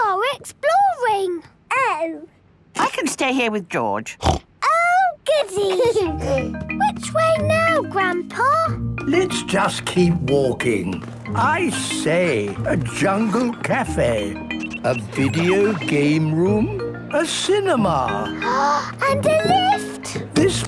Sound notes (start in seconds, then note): 4.2 snorts; 5.5 George giggles; 18.3 gasps